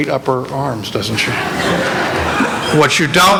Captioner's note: laughter